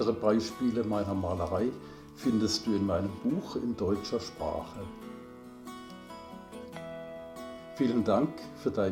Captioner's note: in German